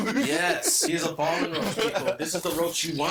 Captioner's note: infernal laughing